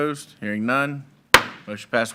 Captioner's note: gavel thudding